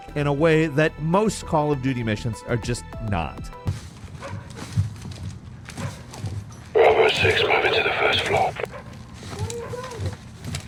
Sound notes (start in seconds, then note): 4.2 dog barking